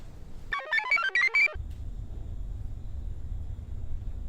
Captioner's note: computer chirps